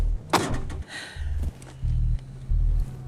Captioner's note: car door closes